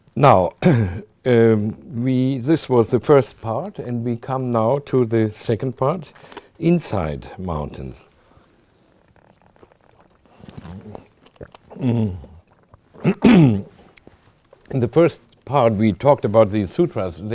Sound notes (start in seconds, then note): 9.5 drinks water and clears throat